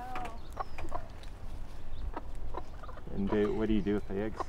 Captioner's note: hen clucking